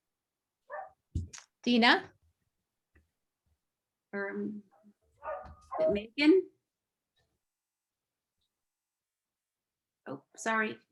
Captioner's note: sounds like dog barking in background